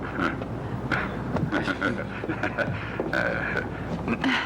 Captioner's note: chuckling